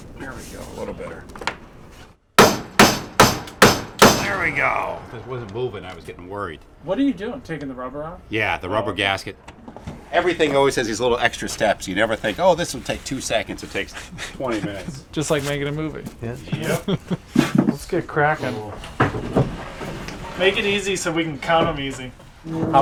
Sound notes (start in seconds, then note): 2.3 hammers; 16.6 laughs